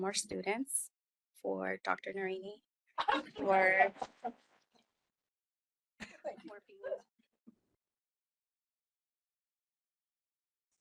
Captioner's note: laughing